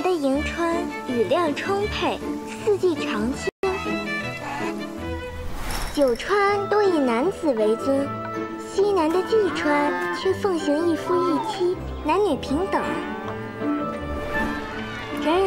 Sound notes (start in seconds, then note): 9.3 moo